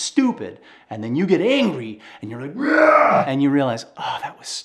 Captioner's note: groans